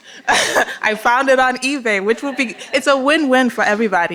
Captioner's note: laughter